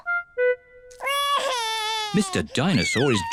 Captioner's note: wails